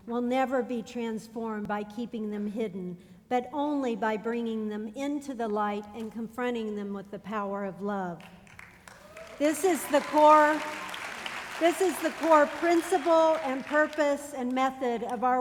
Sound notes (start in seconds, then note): 8.2 applause